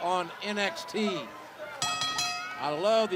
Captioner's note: bell ringing